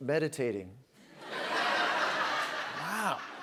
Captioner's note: laughter